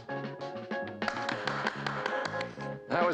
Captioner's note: applauding